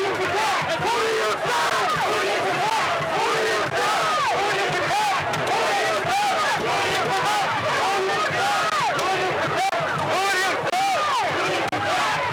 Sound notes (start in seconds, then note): 0.0 chanting